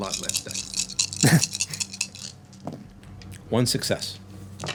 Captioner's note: laughing